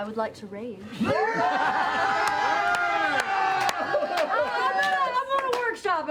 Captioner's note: cheering